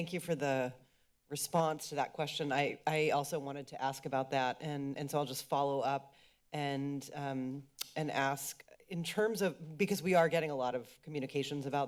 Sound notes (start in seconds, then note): 7.5 clicks tongue